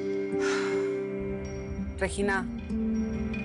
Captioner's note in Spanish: Suspiros